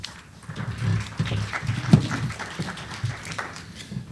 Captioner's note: applause